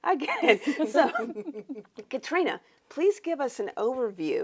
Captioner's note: panelists laughing